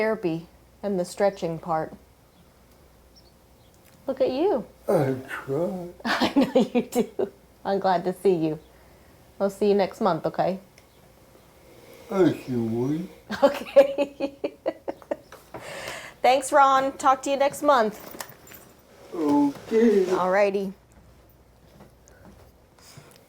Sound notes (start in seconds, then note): 13.2 laughs